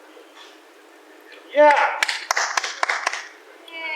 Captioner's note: applauds